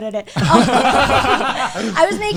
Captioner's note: all laughing